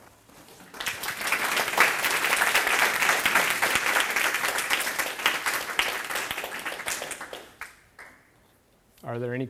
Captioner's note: applause